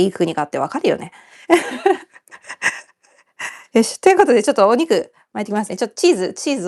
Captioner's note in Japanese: 笑い